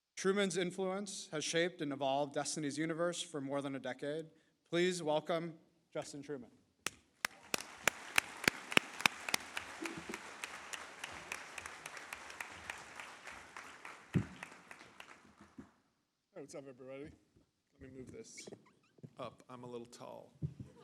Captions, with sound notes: Truman's influence has shaped and evolved Destiny's universe for more than a decade. Please welcome Justin Truman. (audience claps) - Hey, what's up, everybody? Let me move this up. I'm a little tall.